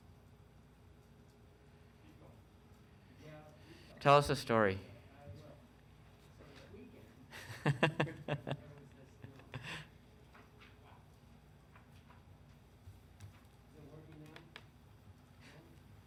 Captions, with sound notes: - Tell us a story. (laughing)